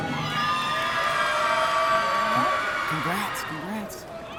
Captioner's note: audience cheering